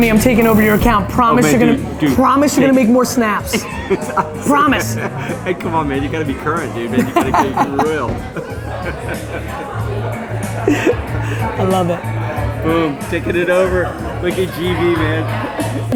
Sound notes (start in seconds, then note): 9.0 Gary and Tony laughing